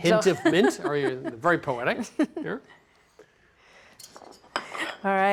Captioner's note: laughs